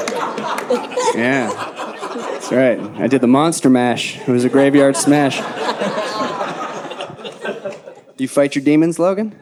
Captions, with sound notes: (audience laughing) Yeah, that's right, I did the Monster Mash, it was a graveyard smash. (audience laughing) Do you fight your demons, Logan?